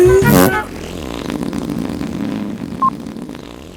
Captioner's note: farting